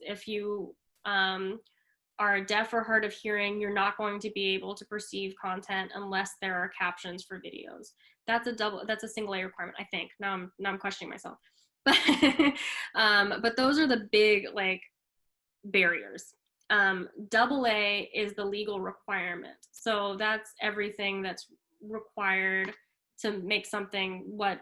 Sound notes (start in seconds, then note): 11.9 laughs